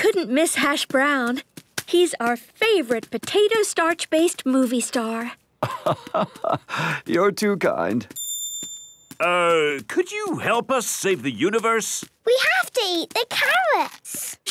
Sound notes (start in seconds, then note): 5.6 laugh